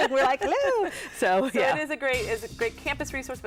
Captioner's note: laugh together